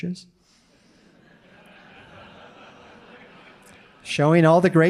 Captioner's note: audience laughing